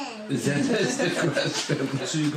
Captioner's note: laughter